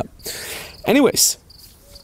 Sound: inhales deeply

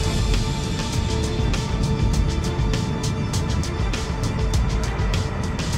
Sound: airplane taking off

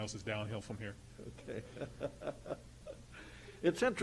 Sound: laughs

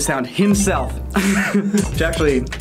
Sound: laughs

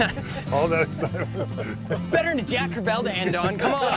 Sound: laughter

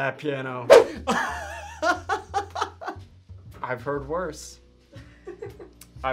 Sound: laughs

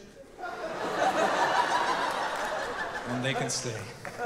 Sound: audience laughing

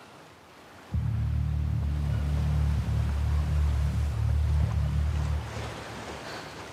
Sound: waves crash; high-tension music

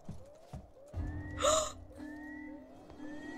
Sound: fear gasp

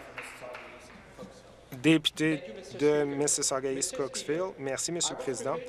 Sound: applause

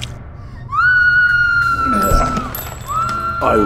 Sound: screams

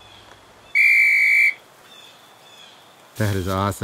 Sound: birds chirping; whistle blasts

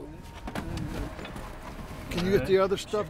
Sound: footsteps approaching

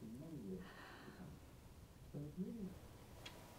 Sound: sighs; clock ticking

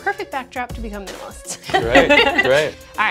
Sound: laughs

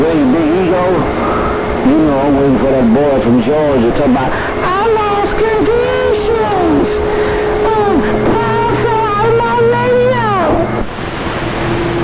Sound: sarcastic whiny voice

